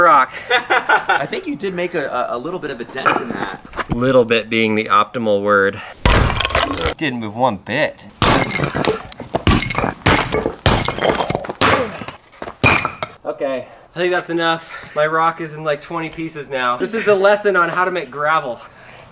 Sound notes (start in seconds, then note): 0.4 laughter; 6.1 shatter noise; 8.2 shatter noise